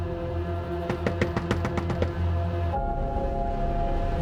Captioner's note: rapid knocking on door